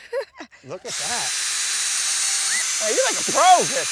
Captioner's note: drill buzzing